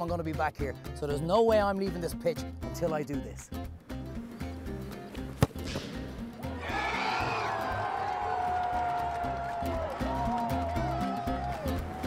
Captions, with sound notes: I'm gonna be back here so there's no way I'm leaving this pitch 'til I do this. (crowd cheering)